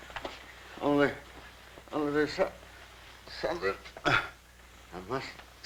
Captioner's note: grunts